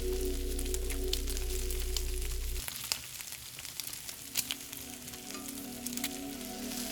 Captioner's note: fire crackling; food sizzling; light music continues; food sizzling